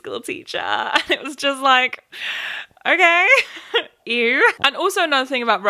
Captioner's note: laughs